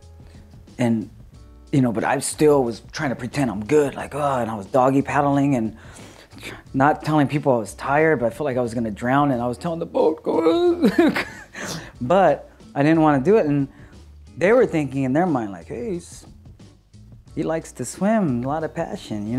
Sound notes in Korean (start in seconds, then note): 10.8 웃음